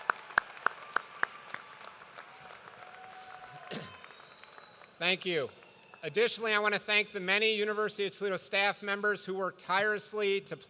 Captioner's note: applause